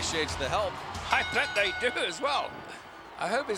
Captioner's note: bell rings